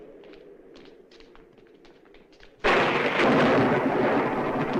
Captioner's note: thunderclap